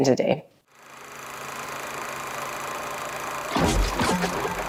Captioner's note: film reel noise